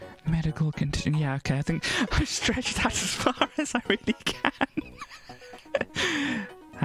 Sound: laughs

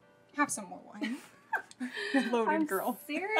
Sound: both chuckles

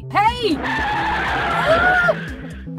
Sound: car brakes screeching

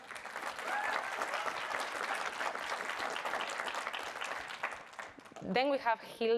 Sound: audience applauds and cheers

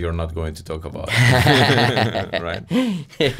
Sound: laughing

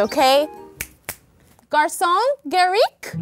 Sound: snaps

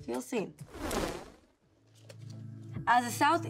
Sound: crackling swoosh

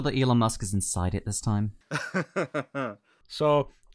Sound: laughter

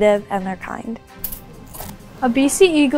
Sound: sound of shears cutting

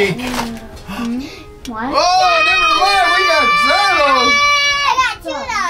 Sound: yelling

